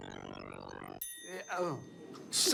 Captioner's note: bell pings